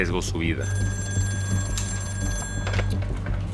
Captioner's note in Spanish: Suena el teléfono